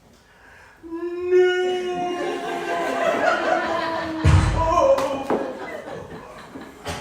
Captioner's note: gun shot